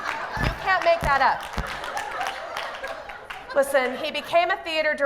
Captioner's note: laughter